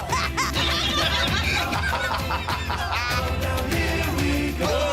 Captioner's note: laughter